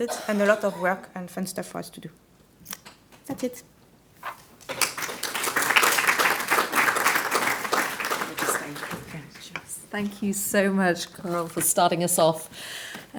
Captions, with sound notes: and a lot of work and fun stuff for us to do. That's it. (audience applauds) Thank you so much, Carole, for starting us off